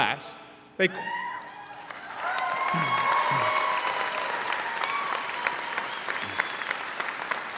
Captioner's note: audience cheers; audience applauds